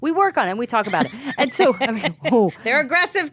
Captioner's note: laughing